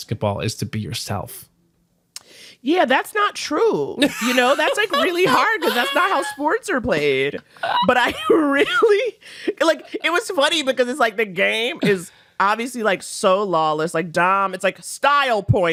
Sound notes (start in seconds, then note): 4.0 laughs